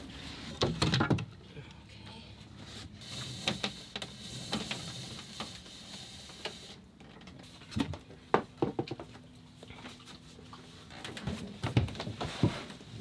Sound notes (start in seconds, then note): 0.9 wood banging softly; 8.6 wood banging softly